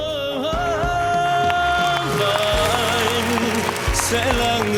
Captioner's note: applause